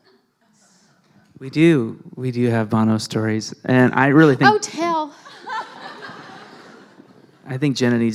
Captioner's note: laughter